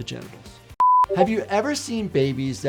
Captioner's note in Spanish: pitido de pantalla